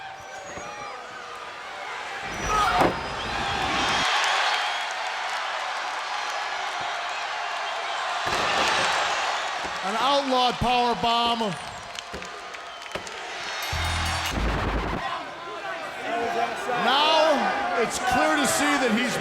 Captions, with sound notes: >> [CROWD CHEERING] >> AN OUTLAWED POWERBOMB. >> [CROWD CHEERING] >> [BELL RINGING] >> [CROWD CHATTER] >> NOW IT'S CLEAR TO SEE THAT